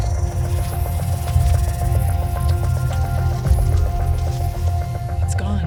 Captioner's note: eerie digital noises